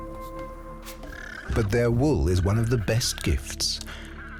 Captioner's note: llama braying